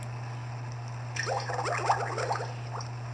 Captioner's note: water Bubbling